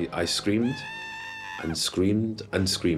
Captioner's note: screaming sounds